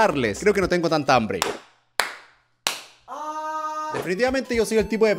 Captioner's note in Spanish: aplausos